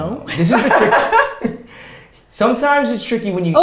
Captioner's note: laughs